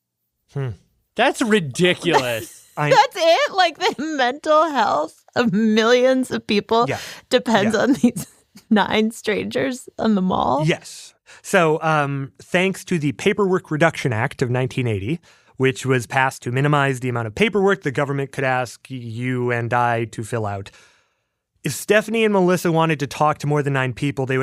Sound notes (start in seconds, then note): 1.3 laughs